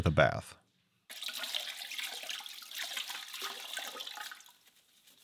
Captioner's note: water splashing